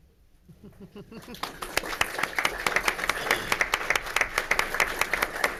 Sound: audience applauds

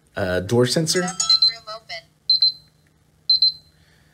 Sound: beeping

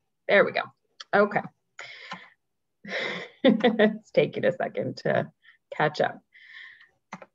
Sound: laughs

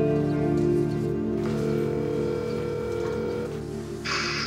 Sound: phone ringing

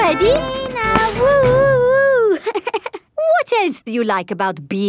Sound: chuckles

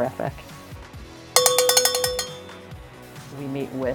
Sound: cowbell rings

